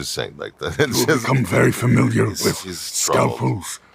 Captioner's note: imitating proximus